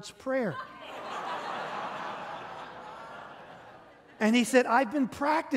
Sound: congregation laughing

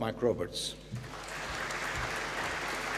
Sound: applause

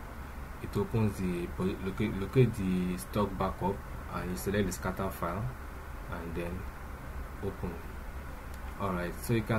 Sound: click

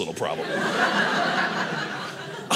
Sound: audience laughing

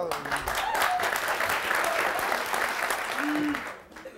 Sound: audience applauds

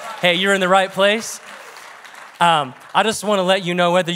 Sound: congregation clap

